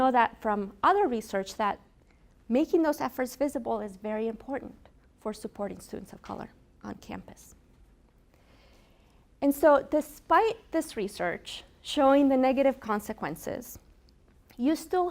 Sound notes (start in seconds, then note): none